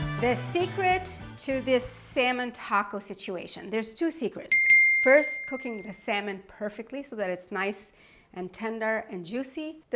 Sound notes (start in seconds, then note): 4.5 bell dinging